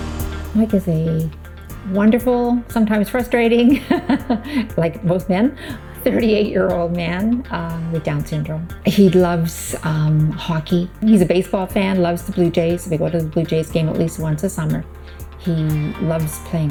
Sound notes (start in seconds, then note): 3.7 chuckles